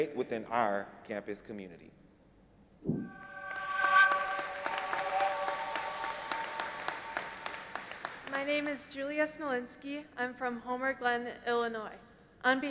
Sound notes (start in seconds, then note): 3.2 audience applauding